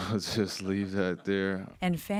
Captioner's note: laughter